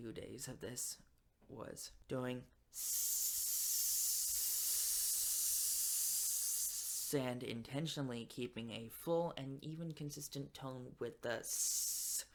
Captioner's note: hissing